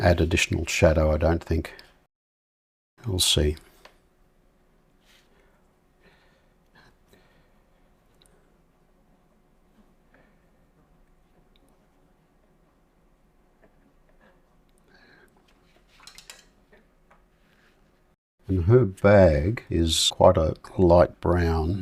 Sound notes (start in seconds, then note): 6.2 silence